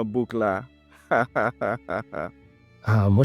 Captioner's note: hahaha!